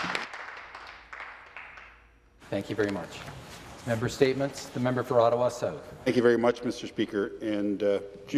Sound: some Applause

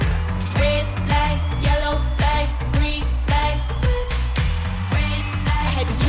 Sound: ooh

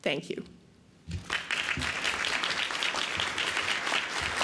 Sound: applause

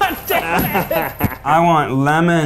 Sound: all laughing

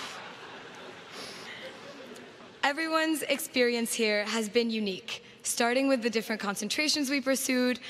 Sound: laughter

